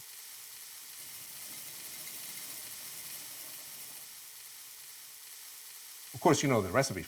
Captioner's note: pan sizzling; spices shaking